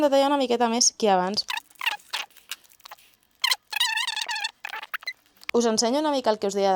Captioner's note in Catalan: Sons de minion